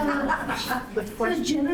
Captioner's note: laughing